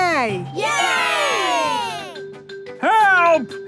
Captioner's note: crowd cheering